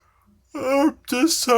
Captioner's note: yawning